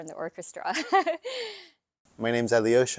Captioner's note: laughing